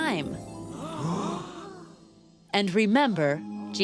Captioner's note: gasps